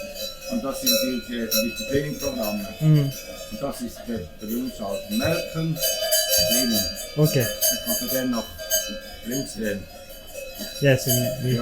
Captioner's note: speaking german